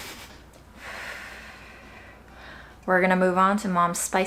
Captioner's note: laughs; exhales